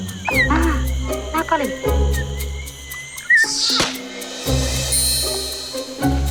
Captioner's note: in foreign language